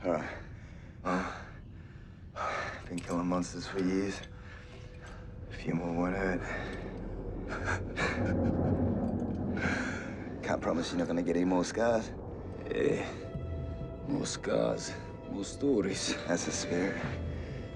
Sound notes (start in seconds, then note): 7.1 ship creaking; 7.4 men chuckling